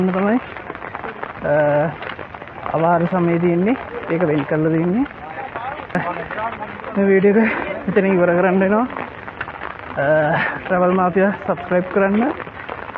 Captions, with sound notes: [ Raining ] so the video is to end subscribe travel mafia to further updates